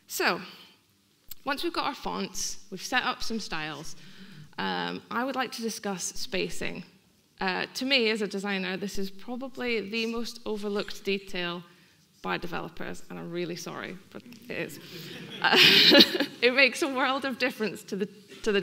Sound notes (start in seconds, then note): 14.8 laughing; 14.8 audience laughing